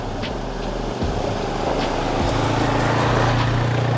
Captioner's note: ATV roars past